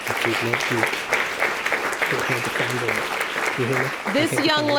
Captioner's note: applause; whispering